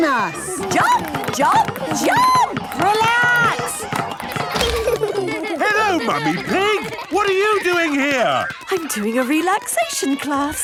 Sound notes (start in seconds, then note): 4.5 laughter